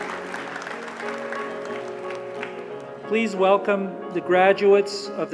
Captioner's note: applause